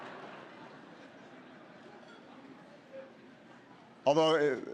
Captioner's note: laughter